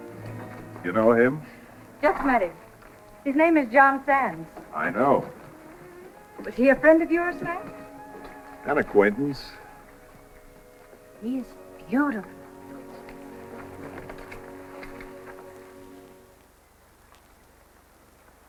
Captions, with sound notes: You know him? Just met him. His name is John sands. I know. Is he a friend of yours, Matt? An acquaintance. He is beautiful. [CLICKING]